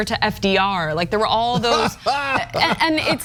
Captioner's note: laugh